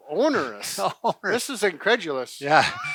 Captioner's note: laughing